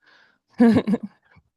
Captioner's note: chuckles